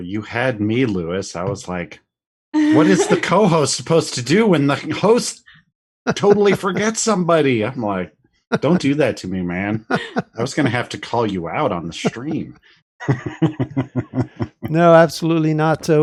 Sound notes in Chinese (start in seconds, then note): 13.0 笑声